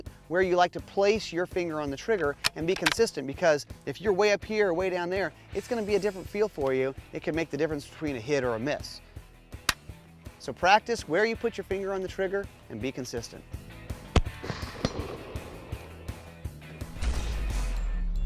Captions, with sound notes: Where you like to place your finger on the trigger, and be consistent, because if you're way up here or way down there, it's gonna be a different feel for you. It can make the difference between a hit or a miss. So practice where you put your finger on the trigger, and be consistent. (gun shot)